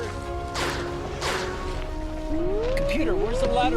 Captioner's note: guns whizzing